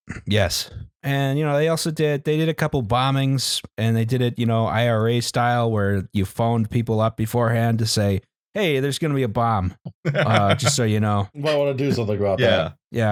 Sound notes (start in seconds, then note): 9.9 laughs